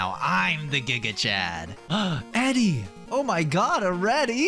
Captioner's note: gaSP